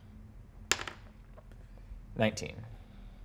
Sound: die taps table

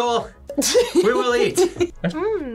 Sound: laughs

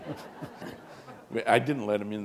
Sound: chuckle

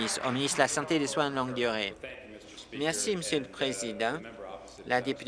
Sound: applause

